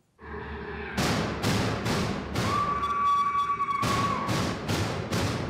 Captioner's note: screaming; banging